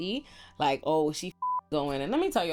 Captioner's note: beep